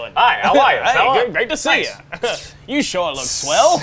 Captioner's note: inhales